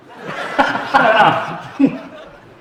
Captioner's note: audience laughs; guests laughing